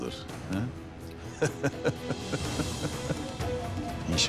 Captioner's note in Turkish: Gülme sesi